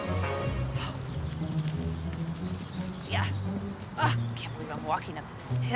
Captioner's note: groans